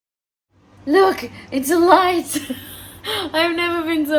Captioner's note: laughs joyfully